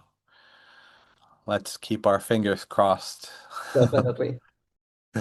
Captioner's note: chuckles